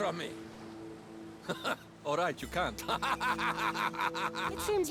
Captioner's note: laugh; laughing